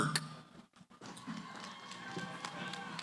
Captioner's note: cheering